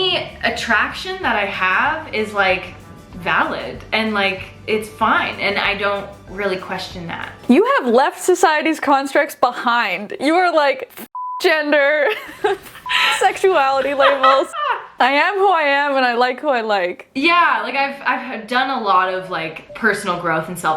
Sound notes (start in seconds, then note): 11.1 beep; 12.0 laughing; 13.0 beep